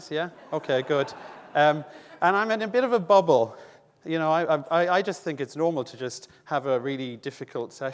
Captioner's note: audience laughing